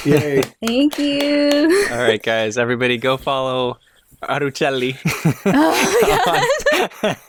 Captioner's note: laughter